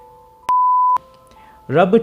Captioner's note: beep